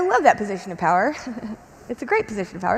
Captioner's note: chuckles